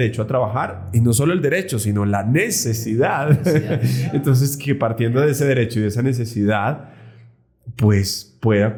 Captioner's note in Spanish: risas